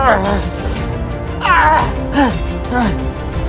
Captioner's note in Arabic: رجل يئن